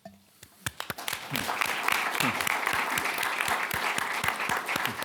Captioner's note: audience applauding